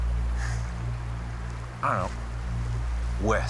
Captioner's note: sighs